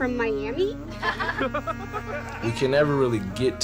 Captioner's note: audience laughs